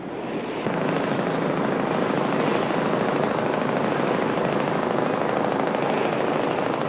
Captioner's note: boat engines